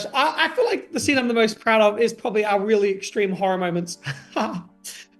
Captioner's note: laughing